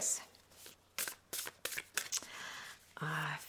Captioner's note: cards rustle